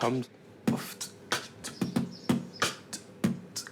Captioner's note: beatboxing